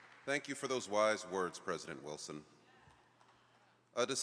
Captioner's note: applause